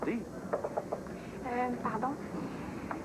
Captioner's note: toc! Toc! Toc!